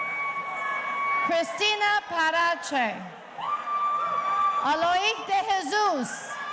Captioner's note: audience cheering; audience cheering